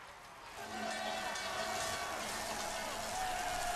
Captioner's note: cheering